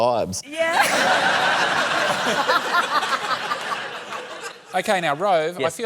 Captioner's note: laughter